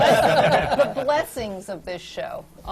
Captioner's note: laughter